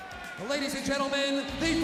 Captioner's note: crowd cheering